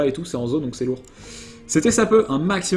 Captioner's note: last inhale of the video